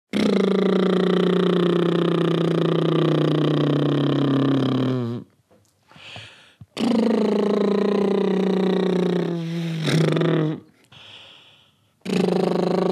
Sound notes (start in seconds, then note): 0.0 lip Blowing Noises